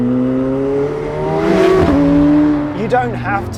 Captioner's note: car rumbling